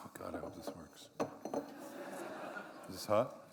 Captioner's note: laughter